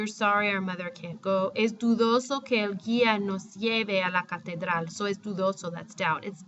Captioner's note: speaking spanish; spanish